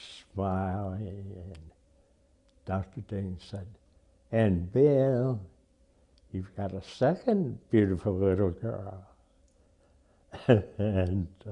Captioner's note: laughs